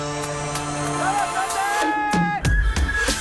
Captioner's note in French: il crie